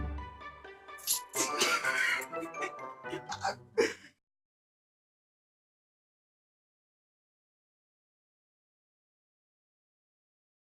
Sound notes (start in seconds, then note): 1.3 laughing